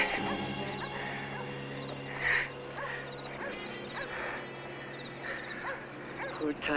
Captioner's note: groaning